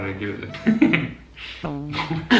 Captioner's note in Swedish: skrattar; gnäggskratt